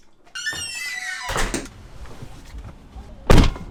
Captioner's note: door squeaks